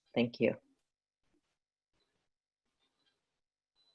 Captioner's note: pause 00:46:40